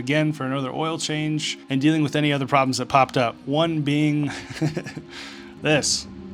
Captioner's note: laughing